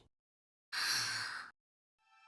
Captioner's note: pensive breath